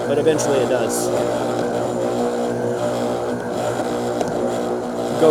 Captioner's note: blender whirring